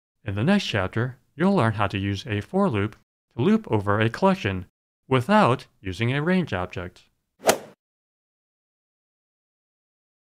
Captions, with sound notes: In the next chapter, you'll learn how to use a For Loop to loop over a collection, without using a Range Object. [swoosh]